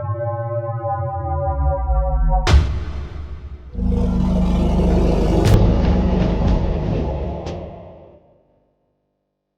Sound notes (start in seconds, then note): 3.7 dinosaur grumbling; 6.1 upbeat drumbeat music